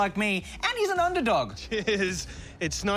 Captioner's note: chuckles